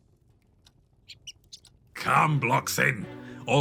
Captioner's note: mouse squeaks